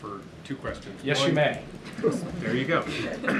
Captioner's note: laughter